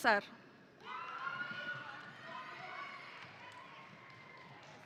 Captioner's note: audience cheering